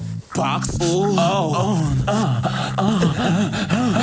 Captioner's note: moaning